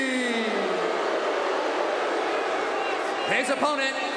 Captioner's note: audience cheering